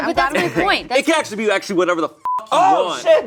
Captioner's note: beep